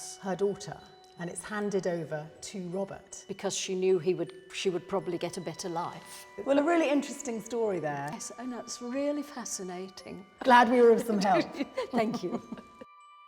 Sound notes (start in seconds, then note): 11.2 both chuckling